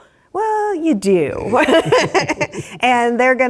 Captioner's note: laugh